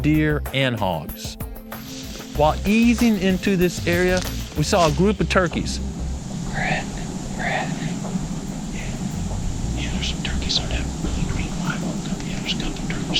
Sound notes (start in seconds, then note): 6.5 whispering